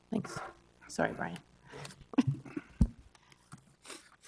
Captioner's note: chuckles